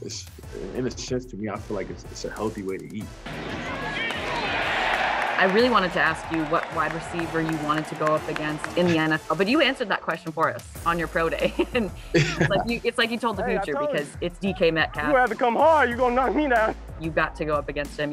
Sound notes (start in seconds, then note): 4.2 helmet slamming; 11.2 laughing